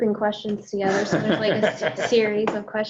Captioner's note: laughs